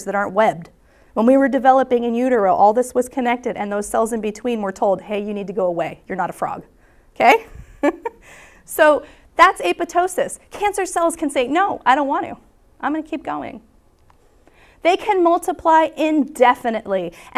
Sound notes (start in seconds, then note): 7.5 chuckles